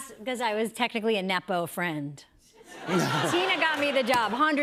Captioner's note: laughter